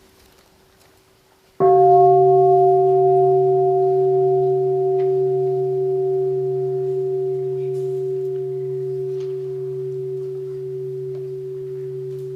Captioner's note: the sound of the bell